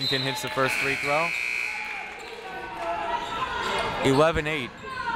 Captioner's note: buzzer